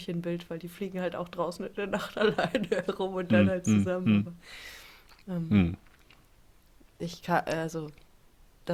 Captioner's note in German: gelächter